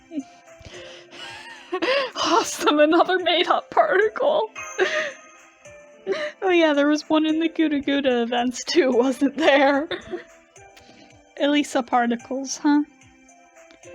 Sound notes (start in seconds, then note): 5.8 still laughing